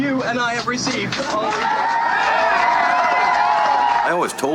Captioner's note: cheering and applause